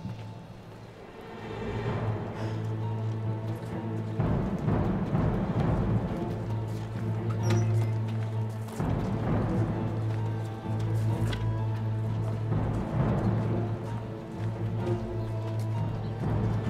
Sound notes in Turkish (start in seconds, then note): 0.3 Müzik - Gerilim; 7.4 Kapı açılma sesi